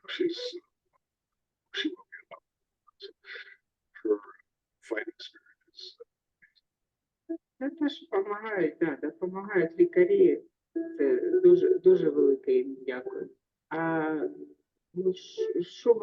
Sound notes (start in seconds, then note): 7.6 speaking in foreign language